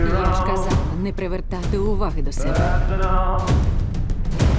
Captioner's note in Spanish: Sarah en inglés